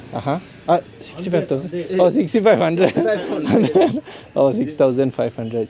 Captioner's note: laugh